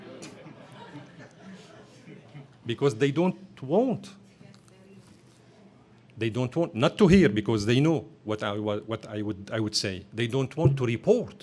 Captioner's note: laughter